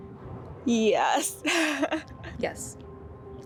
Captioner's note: chuckles